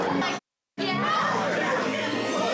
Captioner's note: chatter